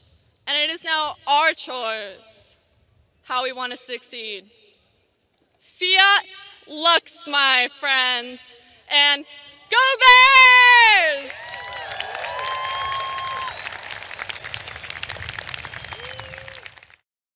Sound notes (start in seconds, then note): 11.6 audience applauding